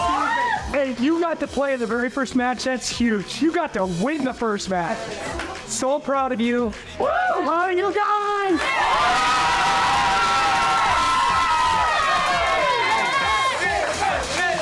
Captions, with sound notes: - Hey, you got to play in the very first match. That's huge. You got to win the first match. So proud of you. Love you guys! [cheering]